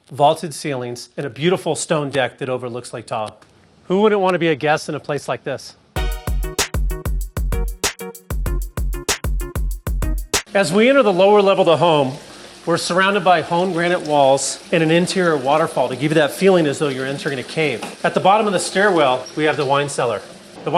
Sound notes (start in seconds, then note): 5.9 light funky music; 15.4 water trickling